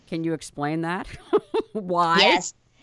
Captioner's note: laughs